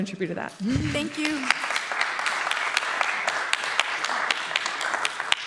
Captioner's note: beep; applause